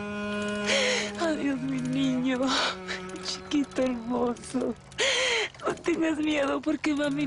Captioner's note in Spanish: Ruido al bajar el ataúd; Llorando